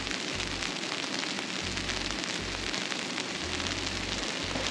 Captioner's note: sound of rain and snow hitting the tarp and tents